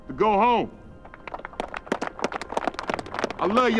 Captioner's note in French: applaudissements